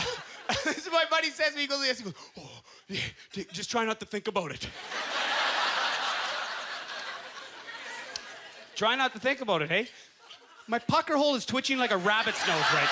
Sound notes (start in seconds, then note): 4.7 audience laughter; 12.0 laughter and applause